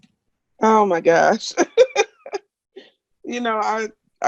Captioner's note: laughs